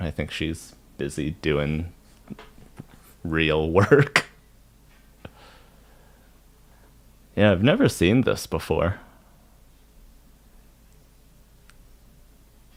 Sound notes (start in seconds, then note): 3.8 laughs; 11.7 silence